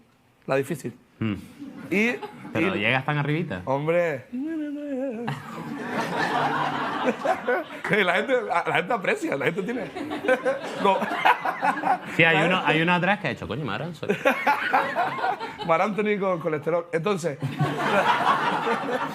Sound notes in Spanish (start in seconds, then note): 4.4 canturrea; 5.2 Risas; 9.6 Risas; 14.0 Risas; 17.4 Risas